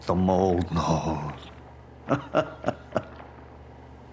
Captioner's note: The Mold laughs